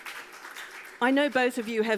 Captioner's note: audience applauds